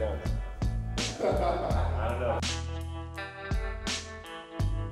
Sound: crew laughs

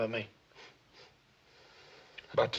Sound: sniffing

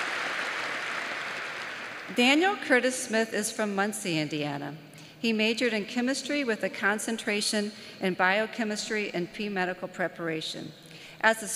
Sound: applause

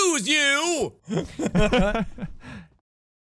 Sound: collective laughing

